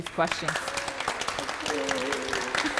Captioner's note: audience applauding